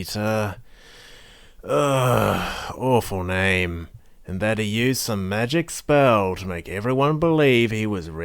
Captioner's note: sigh